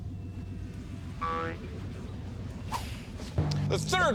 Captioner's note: boing!